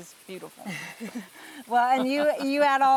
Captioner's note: laughing